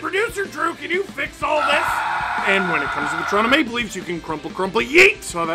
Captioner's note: screaming